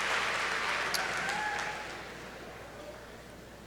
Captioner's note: applause